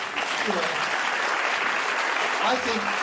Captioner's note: applause